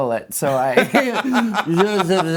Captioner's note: laughing